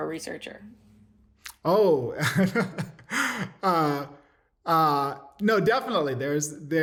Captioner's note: laughter